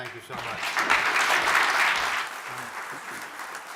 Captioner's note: applause